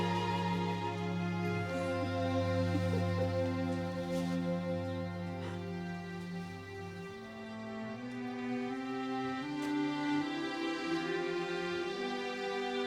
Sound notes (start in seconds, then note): 2.9 Evelyn laughing; 8.6 uplifting orchestral music